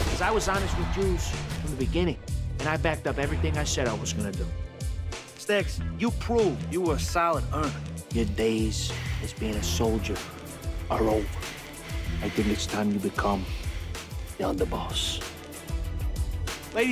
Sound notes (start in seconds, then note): none